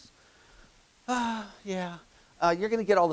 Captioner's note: exhales